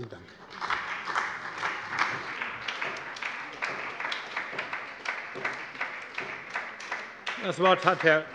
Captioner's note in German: Beifall bei der SPD